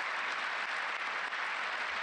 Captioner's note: applause